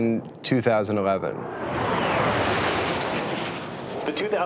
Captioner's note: jet engine roaring